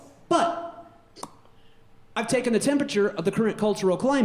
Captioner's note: pops